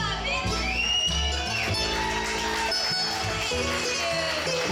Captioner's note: audience cheering